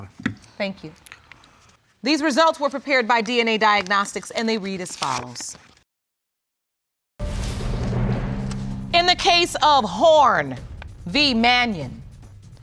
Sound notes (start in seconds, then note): none